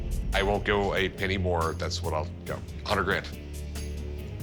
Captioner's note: none